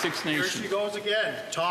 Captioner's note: some Applause